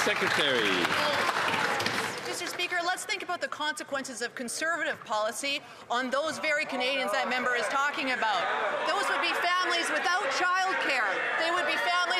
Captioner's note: some Applause